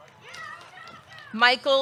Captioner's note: audience cheering